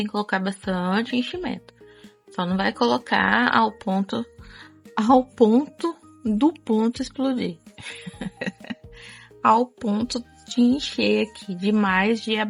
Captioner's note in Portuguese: risadas